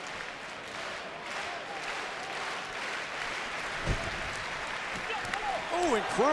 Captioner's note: clapping